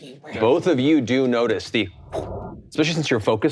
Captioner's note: imitates air whooshing